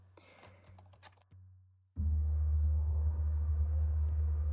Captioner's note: keyboard clacking